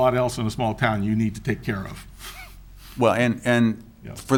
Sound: chuckles

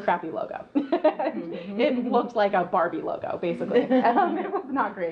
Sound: laughs

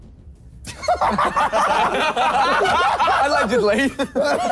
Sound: all laughing

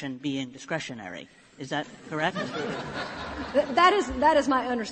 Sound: laughter

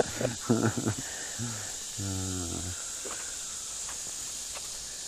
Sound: laughs

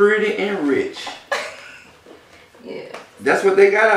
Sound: laugh

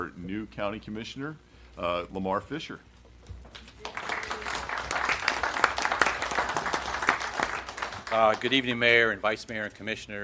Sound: applause

